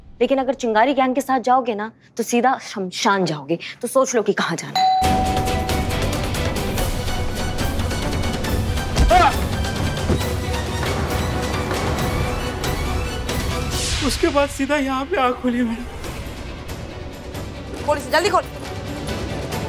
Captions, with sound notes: But if you go with the Chingaari gang, then you'll go directly to the graveyard. So it's up to you. [tense music] [grunting] Then I directly woke up here. Open this.